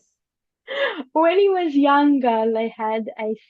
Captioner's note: laughs